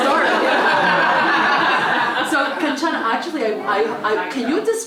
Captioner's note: laugh